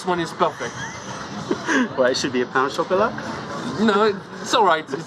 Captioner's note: laughter